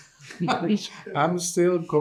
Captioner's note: participants laughing